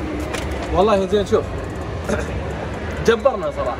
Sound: clears throat

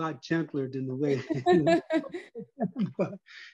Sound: laugh

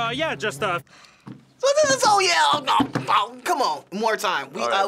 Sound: speaks gibberish

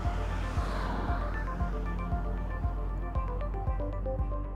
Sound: airplane taking off

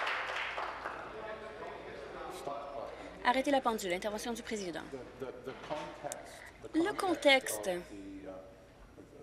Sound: applause

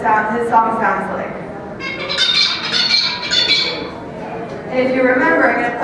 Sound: bird song

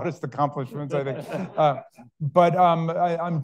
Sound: all laughing

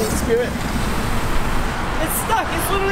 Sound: drone whirring

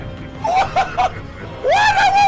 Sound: laughs

